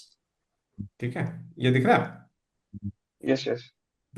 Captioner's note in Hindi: नाक से की जाने वाली आवाज़